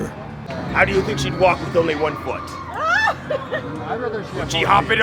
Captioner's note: laughs